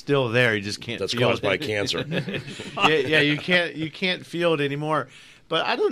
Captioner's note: group laughs